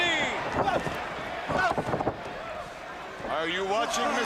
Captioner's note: crowd chatter